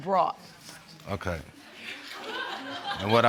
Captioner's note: audience laughs